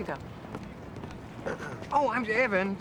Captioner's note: clearing throat